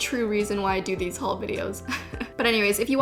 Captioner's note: giggles